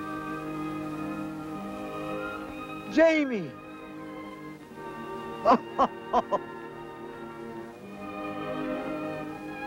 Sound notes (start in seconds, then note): 5.4 laughter